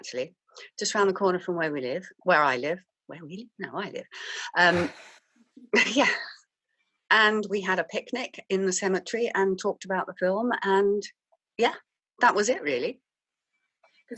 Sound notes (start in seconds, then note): 4.7 laughs